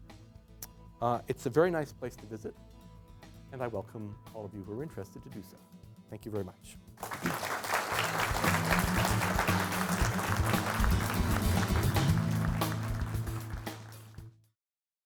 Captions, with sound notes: It's a very nice place to visit and I welcome all of you who are interested to do so. Thank you very much. [ Applause ]